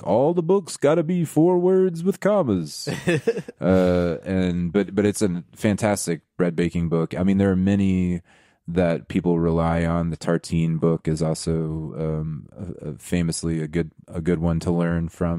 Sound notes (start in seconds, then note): 2.9 laughing